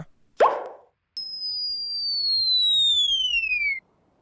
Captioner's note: Cartoon sound of Wendy falling